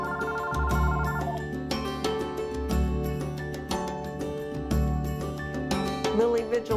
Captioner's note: phone Ringing